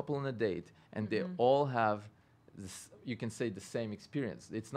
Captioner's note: stutters; stutters